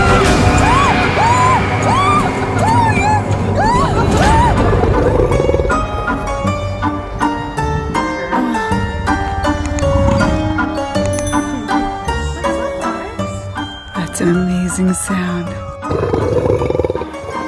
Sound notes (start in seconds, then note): 3.4 low growl; 9.7 growl; 15.6 low growl